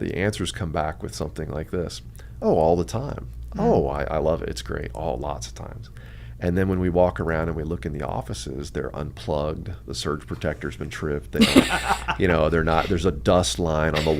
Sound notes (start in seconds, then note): 11.4 both laugh